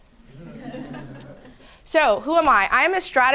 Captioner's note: audience laughing